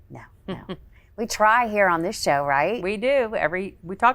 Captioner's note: laughs